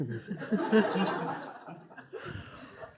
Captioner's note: audience laughs